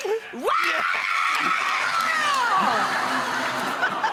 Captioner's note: screaming and clapping; audience laughing